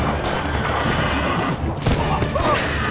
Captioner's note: gunshots; horse neighs; thud, man groans